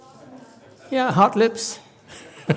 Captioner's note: laughs